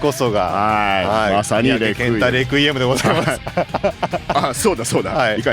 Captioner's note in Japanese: 笑い